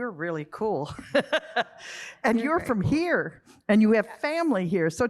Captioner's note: laughter